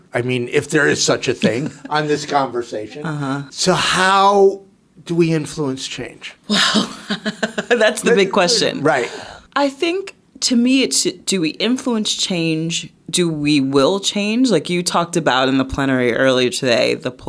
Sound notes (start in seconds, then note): 6.5 laughing